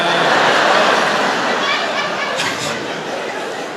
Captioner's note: laughter